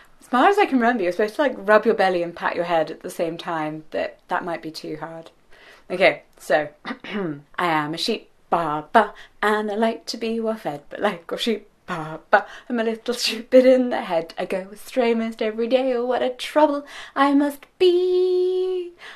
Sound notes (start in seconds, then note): 6.8 clears throat